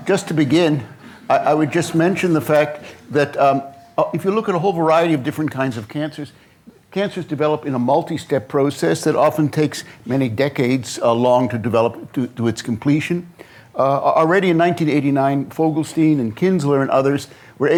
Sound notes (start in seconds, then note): none